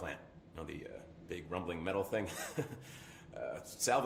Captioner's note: chuckles